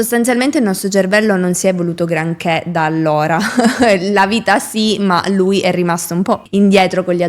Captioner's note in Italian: risate